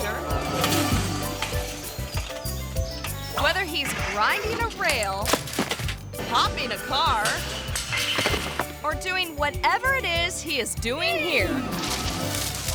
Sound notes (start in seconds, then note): 0.3 tense playful music; 4.5 bike clatters; 5.2 thuds; 7.0 pogo stick clatters; 8.2 thuds; 11.6 tree rustling